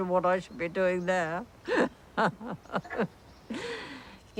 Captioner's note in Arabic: يضحك